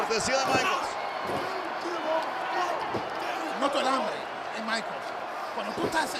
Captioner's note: applause